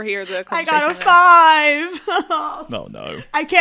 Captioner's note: cries